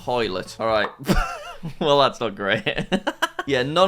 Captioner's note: laughs